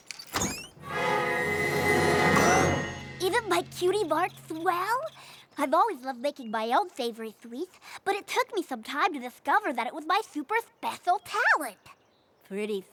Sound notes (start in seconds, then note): 0.0 lock unlatches; 2.4 gasps